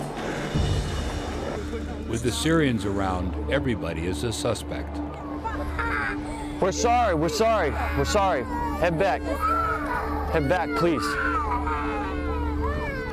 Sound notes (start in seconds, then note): 2.4 voiceover; 5.7 kids crying